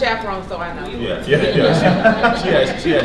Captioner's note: laughter